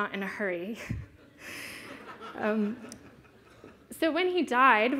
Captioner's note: laughter